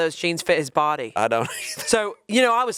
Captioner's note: chuckling